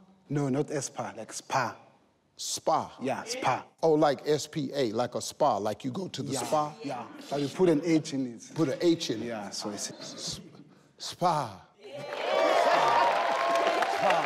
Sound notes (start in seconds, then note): 11.1 voice trembling; 11.8 all cheering